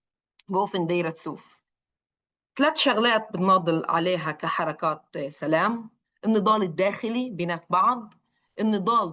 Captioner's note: speaks in Arabic